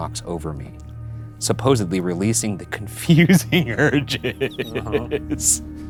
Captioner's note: laughing